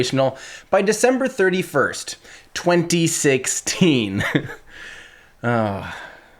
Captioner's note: chuckles; sighs